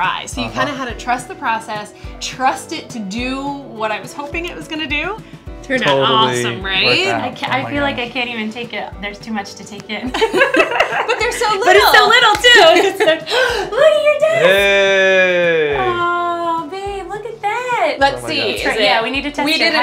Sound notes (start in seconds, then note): 10.0 laughter; 13.0 gasps